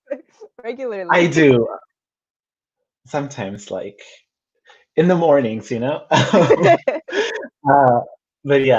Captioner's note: laughs; both laugh